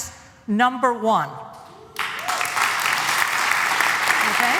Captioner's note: applause